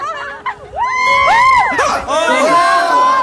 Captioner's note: crowd screaming